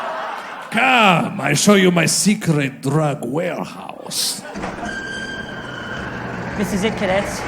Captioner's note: sound of warehouse door opening